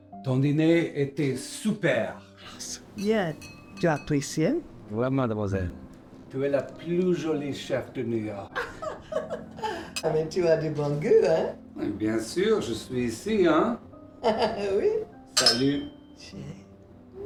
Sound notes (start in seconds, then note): 0.8 Jean-Jacques speaking in French; 3.7 Pauline and Jean-Jacques speaking in French